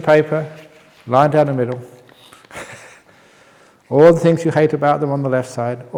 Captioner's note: chuckle